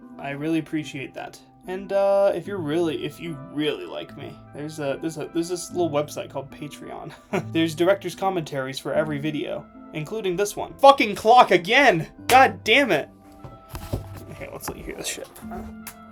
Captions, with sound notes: I really appreciate that. And if you really– if you really like me, there’s this little website called Patreon. [laughing] There’s director’s commentaries for every video, including this one. Fucking clock again! God damn it! Okay, let’s let you hear this shit.